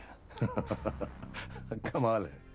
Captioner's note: laughs